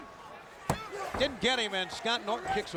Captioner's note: referee smacking mat